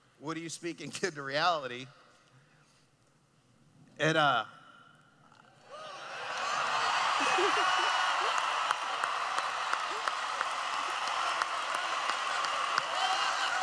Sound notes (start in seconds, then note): 5.6 cheering; 8.6 laughing; 13.3 cheering